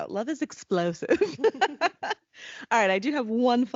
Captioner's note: laughing